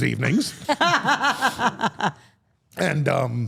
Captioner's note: Steph and Elyse laugh